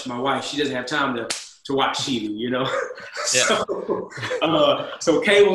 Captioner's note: laughs